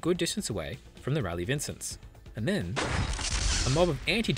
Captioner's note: chronosphere teleport sound